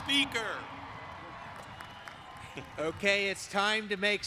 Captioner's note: applause